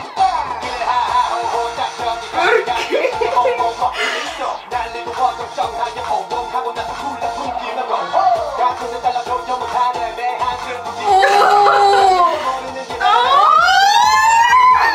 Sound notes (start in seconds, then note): 11.0 squeals; 13.0 squeals intensifies